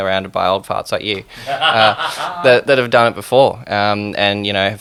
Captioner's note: laughing